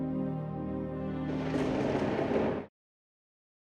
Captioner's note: thunder roars